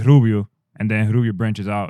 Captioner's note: speaking In Foreign Language